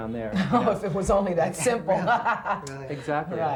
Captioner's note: laughing